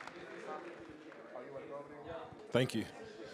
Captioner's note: applause; general chatter